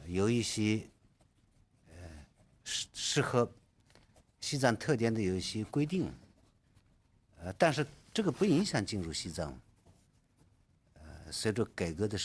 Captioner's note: speaking Alternate Language